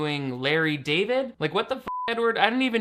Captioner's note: beep